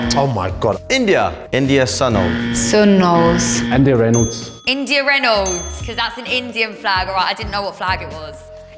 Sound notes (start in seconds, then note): 1.9 incorrect buzzer; 4.1 incorrect buzzer; 4.1 correct bell